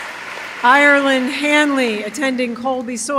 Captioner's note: applause